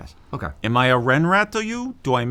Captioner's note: in New Jersey / New York accent